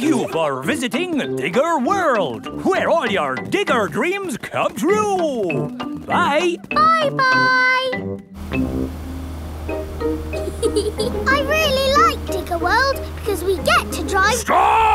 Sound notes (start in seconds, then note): 10.4 george chuckling